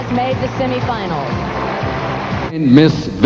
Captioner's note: crowd applauding